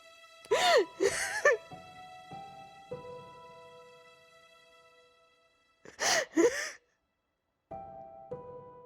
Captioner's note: crying